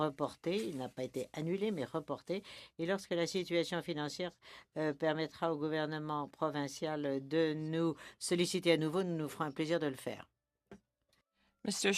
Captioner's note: speaking in French